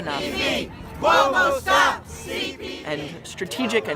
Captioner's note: chanting